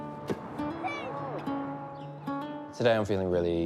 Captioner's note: both shout